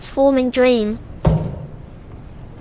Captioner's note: knock